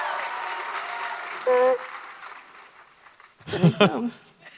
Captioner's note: audience cheering intensifies; A smaller creature on the larger creature makes a short honking noise